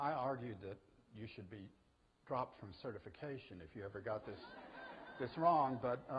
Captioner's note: audience: Laughter